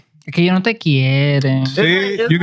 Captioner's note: speaking In Foreign Language